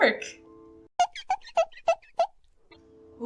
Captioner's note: glass wiping noises idk